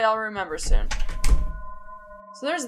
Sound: door opens

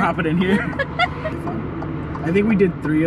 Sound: laughs

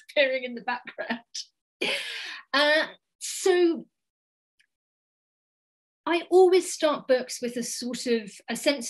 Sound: laughs

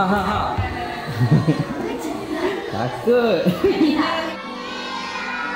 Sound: laugh

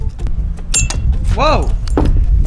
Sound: tinging

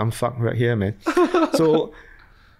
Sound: laughs

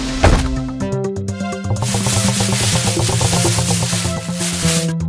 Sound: heavy drop; light running footsteps and scraping

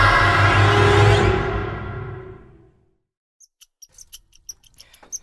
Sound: screaming; chirping

